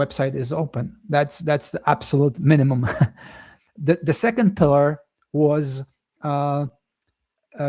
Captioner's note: chuckles